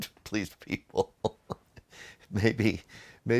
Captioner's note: host laughing